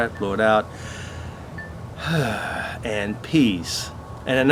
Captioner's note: exhales